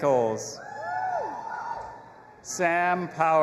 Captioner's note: audience applauding and cheering